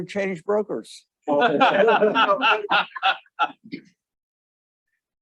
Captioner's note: audience applauding